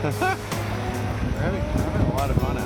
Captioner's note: chuckles